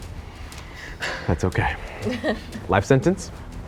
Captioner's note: laughs